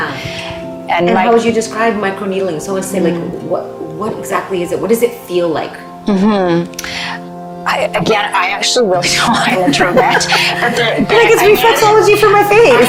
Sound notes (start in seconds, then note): 9.6 both laughing